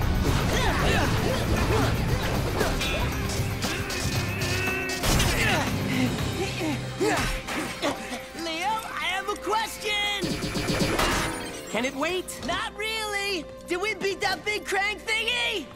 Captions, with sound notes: [grunting] [grunting] Leo, I have a question. -Can it wait? -Not really! Did we beat that big Krang thingy?